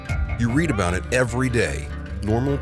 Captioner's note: voiceover